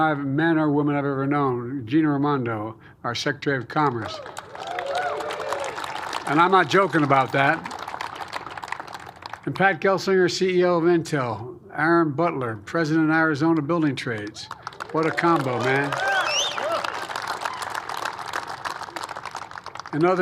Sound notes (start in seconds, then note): 4.0 applause; 18.2 applause